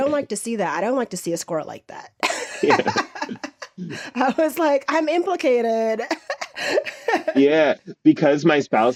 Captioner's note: laughs